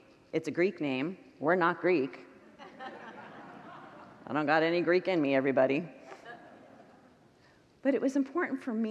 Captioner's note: congregants laugh